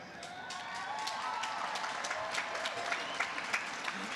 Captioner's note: applause